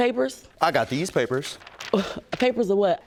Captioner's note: scoffs